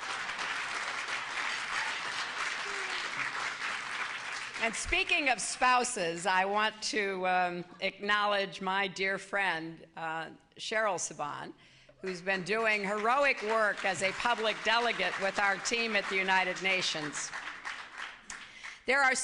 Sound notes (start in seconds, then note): 0.0 laughter and applause; 11.3 applause